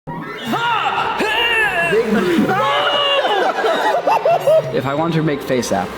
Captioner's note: sounds of shock and disgust